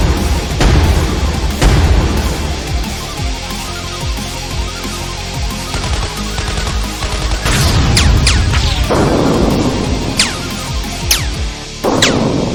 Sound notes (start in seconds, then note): 0.0 explosions booming; 5.6 gun firing